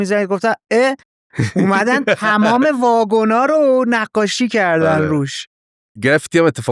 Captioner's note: laughs